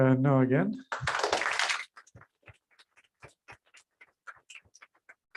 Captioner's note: applause